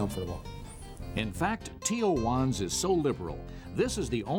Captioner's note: voiceover